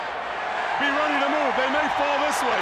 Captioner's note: audience cheers